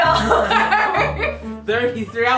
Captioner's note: laughing